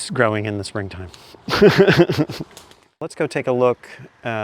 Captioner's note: chuckle